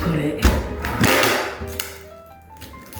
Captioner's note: horrible loud tape-ripping sounds